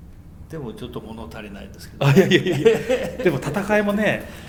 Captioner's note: laughs